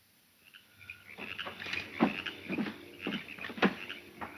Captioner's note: crickets chirping